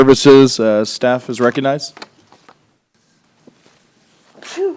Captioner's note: sneeze